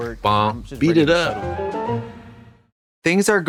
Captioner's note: whimsical chime